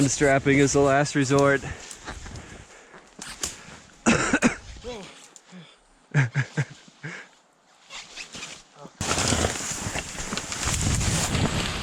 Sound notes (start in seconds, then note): 4.0 coughing; 6.1 laughing; 9.0 snow scraping